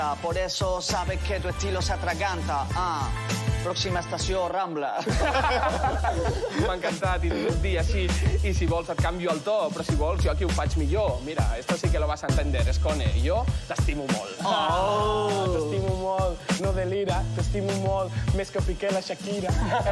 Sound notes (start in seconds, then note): 5.0 laughter